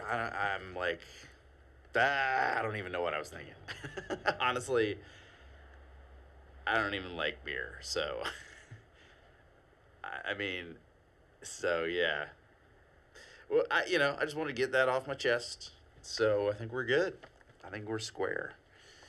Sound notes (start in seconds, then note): 3.5 laughing